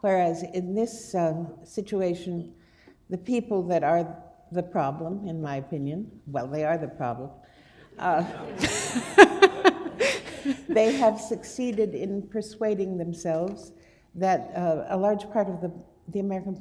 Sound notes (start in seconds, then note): 7.9 laughter